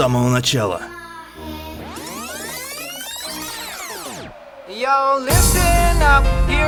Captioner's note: credit rewind sound